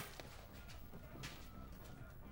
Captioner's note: coins clank